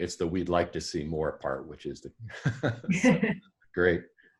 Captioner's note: laughing